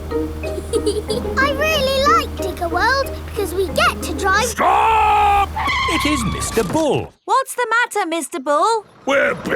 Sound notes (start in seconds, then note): 0.6 george chuckling; 4.3 tires screeching